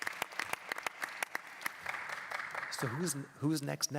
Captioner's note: applause